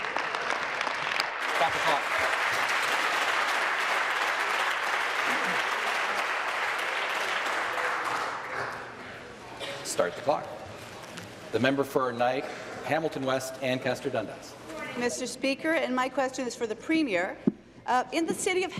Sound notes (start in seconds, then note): 4.1 applause